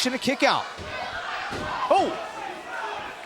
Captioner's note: crowd cheering